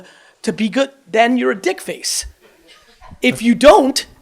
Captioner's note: audience laughs softly